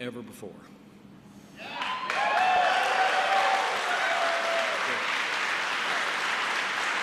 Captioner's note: applause